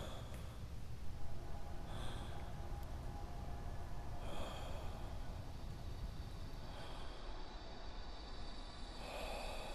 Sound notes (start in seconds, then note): 2.9 slow, dramatic music; 2.9 staggered breathing